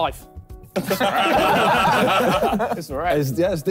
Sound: all laughing

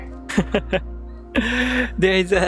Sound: chuckles

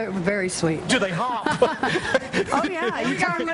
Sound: laughter

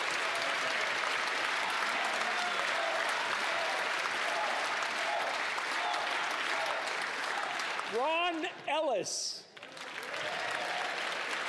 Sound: cheering

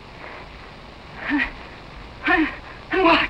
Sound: breathing heavily

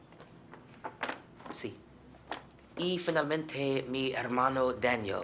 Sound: speaking spanish

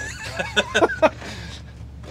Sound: laughs

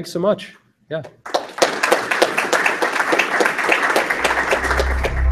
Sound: applause

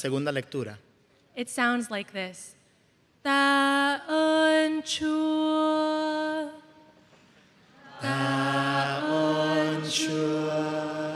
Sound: speaking spanish

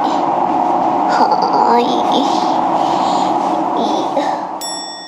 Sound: laughs

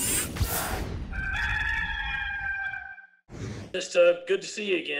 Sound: cock crowing

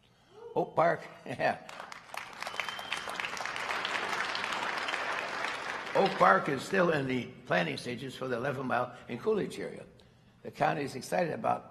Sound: applause

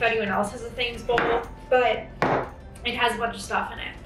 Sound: bowl thuds

